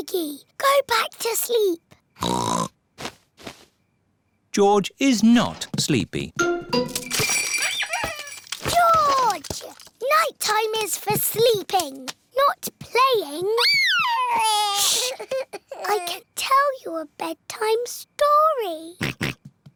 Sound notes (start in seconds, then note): 2.2 oinks; 6.6 bells ring and toys squeak; 13.6 cries; 19.0 oinks